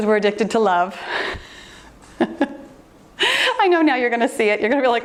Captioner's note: laughing